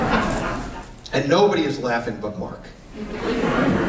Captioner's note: laughter